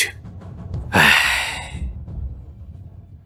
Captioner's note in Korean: 한숨